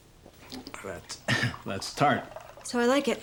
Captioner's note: clears throat